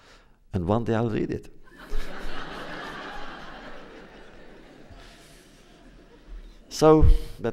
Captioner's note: laughter